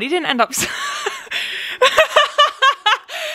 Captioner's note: laughs